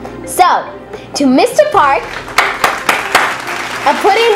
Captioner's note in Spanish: aplausos